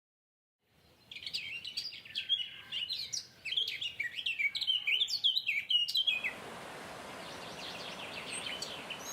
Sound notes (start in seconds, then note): 0.7 birds chirping; 6.1 water rushing